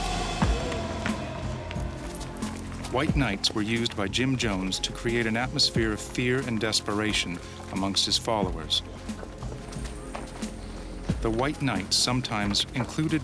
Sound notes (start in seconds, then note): 2.9 voiceover